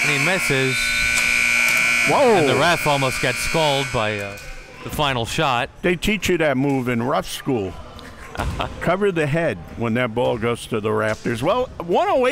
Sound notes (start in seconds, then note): 0.0 buzzer; 8.0 laughing